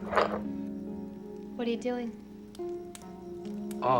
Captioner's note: objects rattling